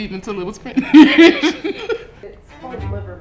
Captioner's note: laughs